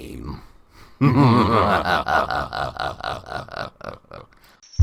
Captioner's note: evil Laughing